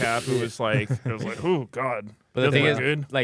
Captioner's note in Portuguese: risos